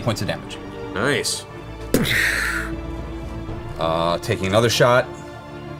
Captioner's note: gunshot sound